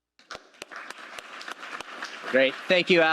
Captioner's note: applause